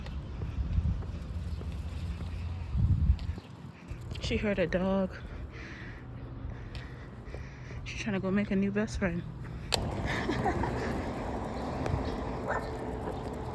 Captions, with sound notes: she heard a dog. she tryna go make a new best friend. [laughter]